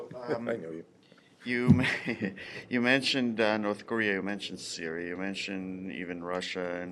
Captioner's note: laughter